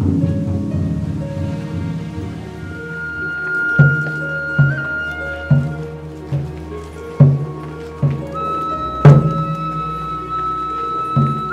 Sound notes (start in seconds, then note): 2.1 wind blowing